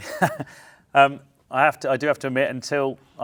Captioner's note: chuckles